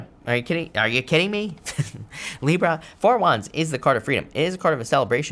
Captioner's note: laughs